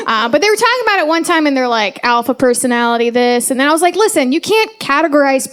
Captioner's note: none